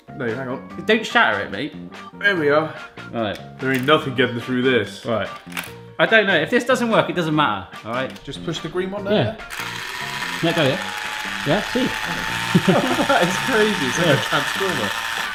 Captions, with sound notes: - No, hang on. - Don't shatter it, mate. - There we are. - All right. - There ain't nothing getting through this. - Right. - I don't know. If this doesn't work, it doesn't matter. All right. - Just push the green one there? Can that go yet? Yeah, see. (laughing) - That is crazy. It's like a transformer.